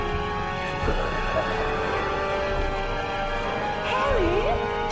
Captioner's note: zombie groaning